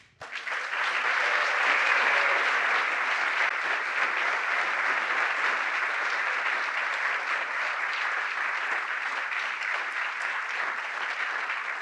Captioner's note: applause